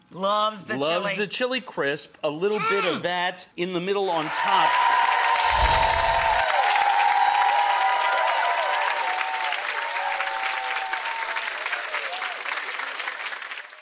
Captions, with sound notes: Loves the chili. loves the chili crisp. A little bit of that in the middle on top. (crowd clapping and cheering)